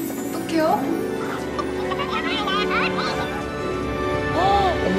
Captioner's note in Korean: "뭐야 인형이 말하잖아..." 웅성웅성 웅성웅성